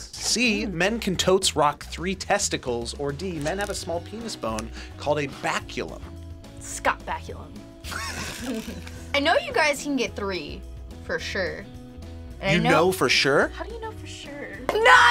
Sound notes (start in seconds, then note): 7.8 both laugh